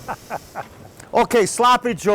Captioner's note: laughs